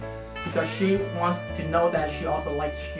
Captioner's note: speaking more English